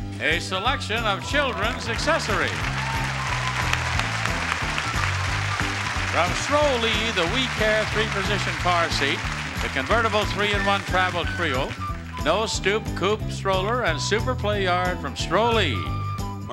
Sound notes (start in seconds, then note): 2.3 audience applauding; 3.3 upbeat music